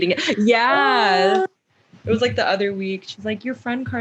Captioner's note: aww